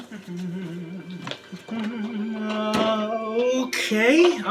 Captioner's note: humming